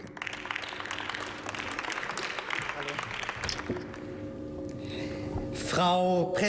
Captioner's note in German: Beifall